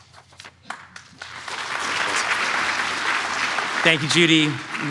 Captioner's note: audience applauds